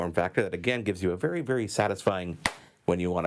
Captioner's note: phone smacks